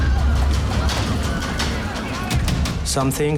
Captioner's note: passengers shrieking